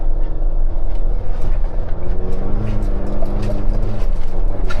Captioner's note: engine rumbling